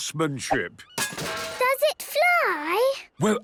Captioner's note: distant clanging